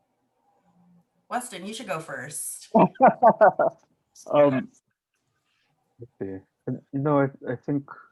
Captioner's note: laughing